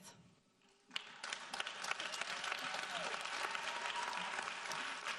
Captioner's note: audience applauding